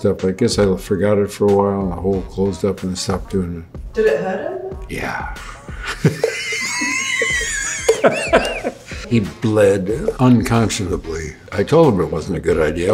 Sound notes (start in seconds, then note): 5.3 Harrison laughs